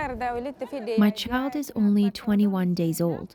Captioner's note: through translator